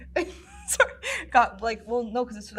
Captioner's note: laughs